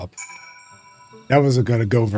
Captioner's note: bell rings